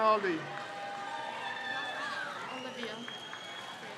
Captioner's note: crowd cheers